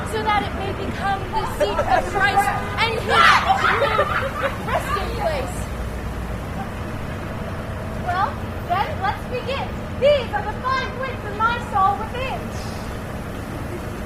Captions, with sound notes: So that it may become the seat of Christ [audience commotion] And His true resting place. Well, then, let's begin: These are the five wits of my soul within!